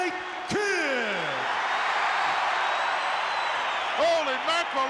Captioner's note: crowd cheers